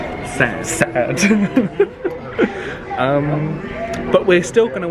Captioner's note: laughs